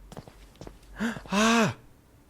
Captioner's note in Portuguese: suspiro